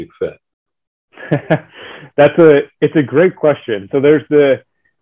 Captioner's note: chuckles